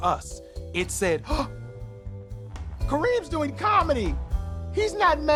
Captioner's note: gasps